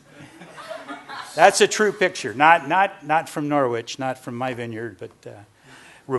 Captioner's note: laughter